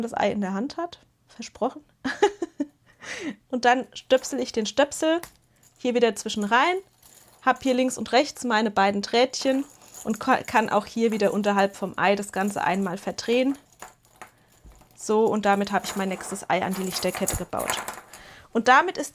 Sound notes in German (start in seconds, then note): 2.0 gelächter